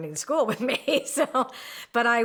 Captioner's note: laughs